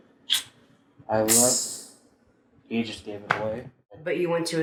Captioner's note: imitates sizzling